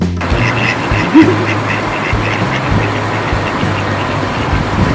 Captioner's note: ducks quacking